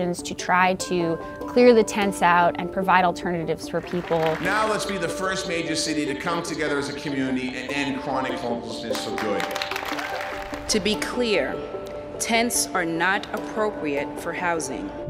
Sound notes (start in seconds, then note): 9.0 attendees applauding